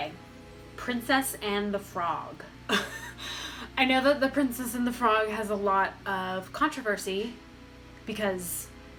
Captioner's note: laughs